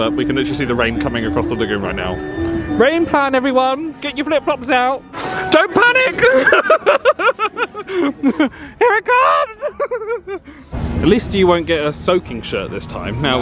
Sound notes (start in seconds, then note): 6.0 laughs